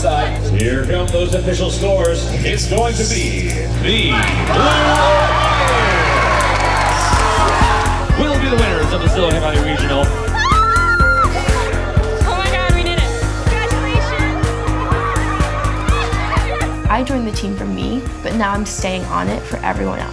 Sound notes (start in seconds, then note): 5.8 crowd cheers; 10.2 exclaim excitedly